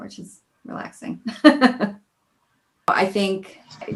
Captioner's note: laughing